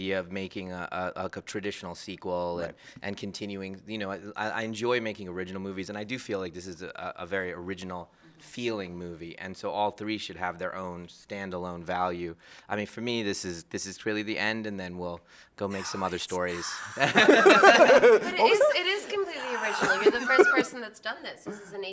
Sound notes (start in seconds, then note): 16.6 laughter; 16.8 whispers